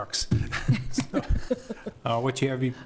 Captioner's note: laughing